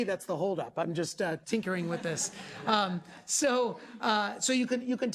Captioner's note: class laughing